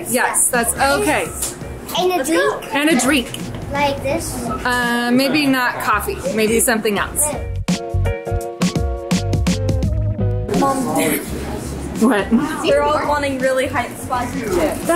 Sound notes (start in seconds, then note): 7.7 upbeat music; 12.0 chuckles